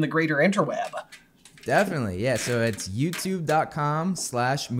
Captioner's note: none